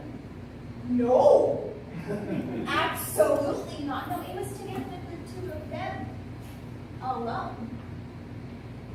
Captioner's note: laughter